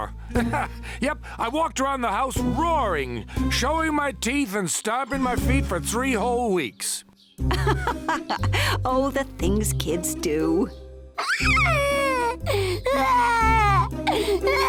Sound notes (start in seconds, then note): 0.2 laughs; 7.7 laughs; 11.2 crying